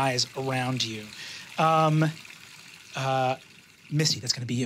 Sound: water trickling

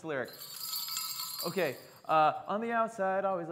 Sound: bells jingle

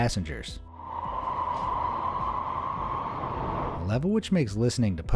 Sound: train roaring

